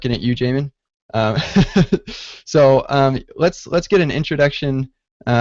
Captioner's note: laughs